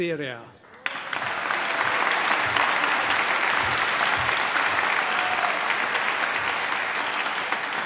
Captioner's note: applause